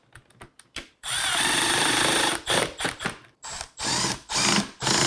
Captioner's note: tool whirring